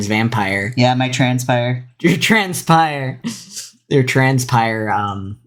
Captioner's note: laughs